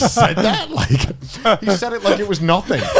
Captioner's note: laughs